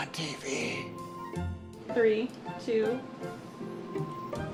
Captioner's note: whispers